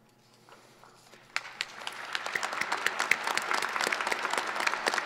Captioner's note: audience applause